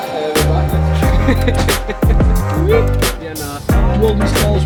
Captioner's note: men chatting